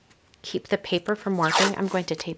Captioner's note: tape ripping